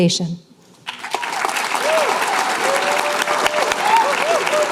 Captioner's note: applause